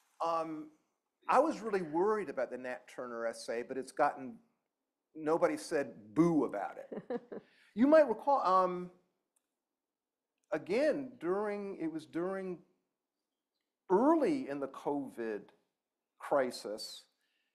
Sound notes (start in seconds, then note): 6.9 laughter